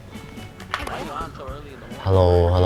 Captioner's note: gameplay Sound